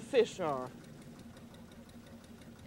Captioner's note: whirring